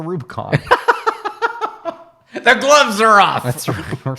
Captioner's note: laughing